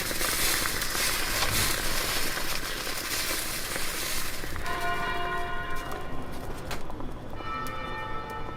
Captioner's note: coffee noise